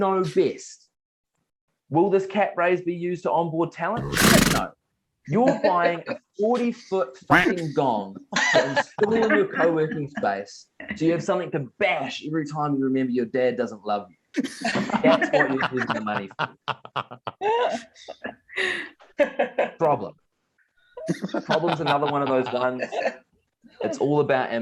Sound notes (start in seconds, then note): 7.3 quack